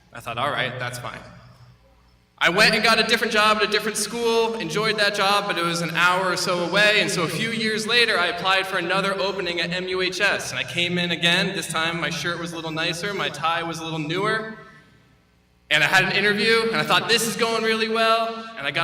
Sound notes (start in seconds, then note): none